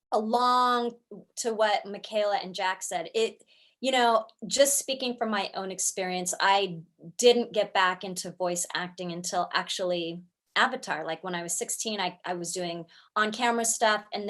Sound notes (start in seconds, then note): none